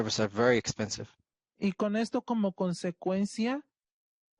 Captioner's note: speaking Spanish